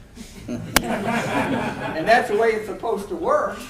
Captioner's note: audience laughing